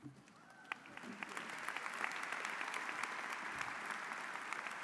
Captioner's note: audience applauding